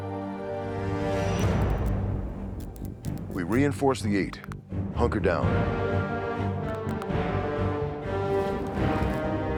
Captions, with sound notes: (dramatic music) (light buzzing) We reinforce the Eat, hunker down. (joints popping)